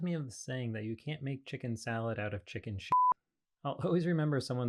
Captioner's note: beep